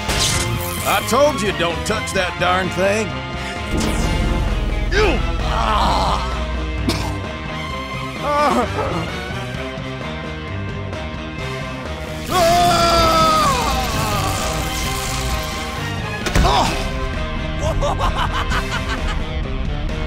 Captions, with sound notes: I told you don't touch that darn thing! *Grunts* *Gasps* *Screams* *Laughing hysterically*